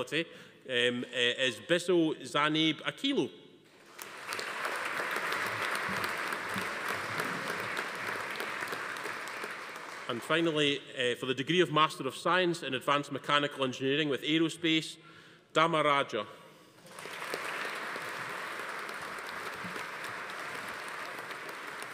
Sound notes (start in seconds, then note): 3.8 audience applauding; 16.8 audience applauding